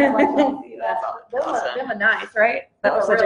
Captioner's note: laughs